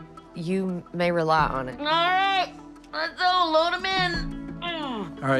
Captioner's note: groans